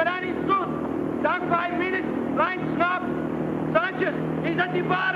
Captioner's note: muffled shouting